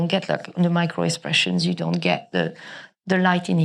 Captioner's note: none